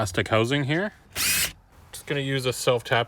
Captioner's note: drill whirring